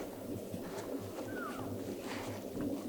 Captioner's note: caller cow calling